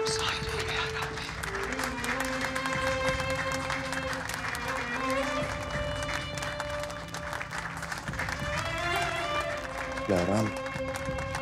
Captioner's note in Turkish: Alkış